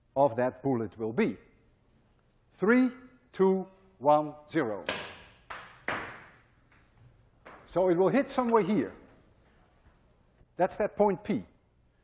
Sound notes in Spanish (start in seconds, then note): 4.9 pelota rebotando